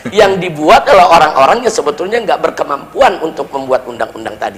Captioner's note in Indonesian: tertawa